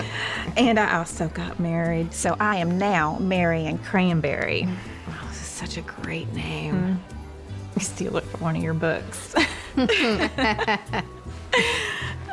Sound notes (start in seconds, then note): 4.8 says sarcastically; 9.4 both chuckling